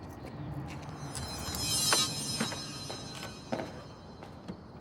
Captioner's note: ominous music; objects clanging